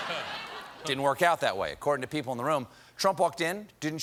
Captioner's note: laughter